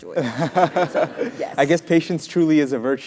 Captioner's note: laugh